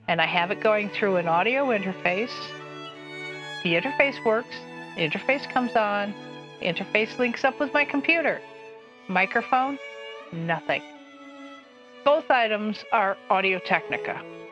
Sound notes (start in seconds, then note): none